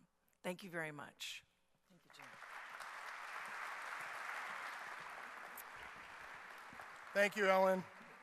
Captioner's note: clapping